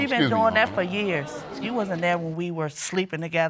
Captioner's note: audience gasps